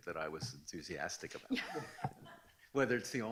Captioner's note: laughs